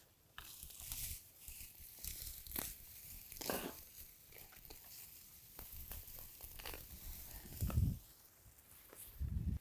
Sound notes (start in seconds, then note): 1.4 grass snapping